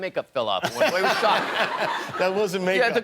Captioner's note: laughter